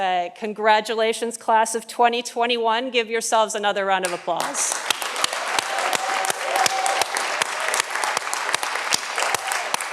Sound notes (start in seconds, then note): 4.4 audience applauding